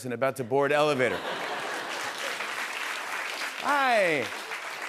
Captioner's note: laughter and applause